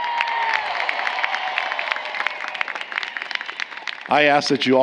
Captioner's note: applause